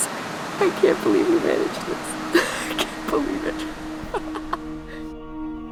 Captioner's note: laughs in disbelief